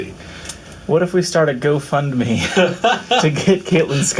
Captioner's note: laughs